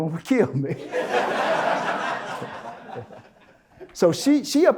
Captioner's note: audience Laughter